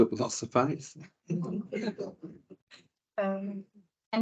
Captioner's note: panel laughs